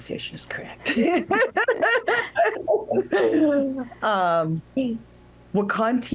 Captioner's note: laughter